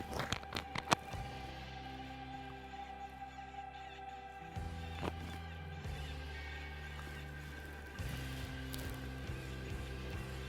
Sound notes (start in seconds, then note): 0.0 rustling; 3.3 coyote calls in the distance